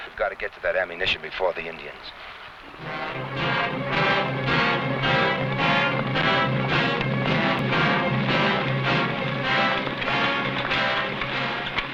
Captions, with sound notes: - We've got to get to that ammunition before the Indians. (tense music) (horse hooves pattering)